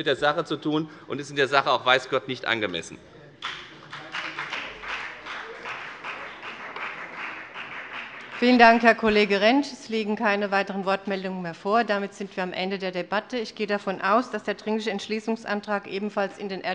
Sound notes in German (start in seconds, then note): 3.4 Beifall bei der FDP